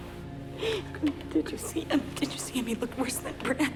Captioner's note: sobs